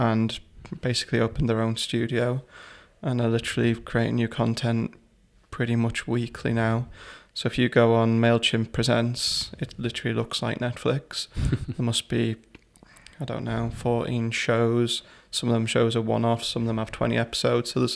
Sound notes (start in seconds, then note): 11.4 laughter